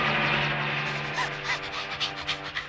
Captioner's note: panting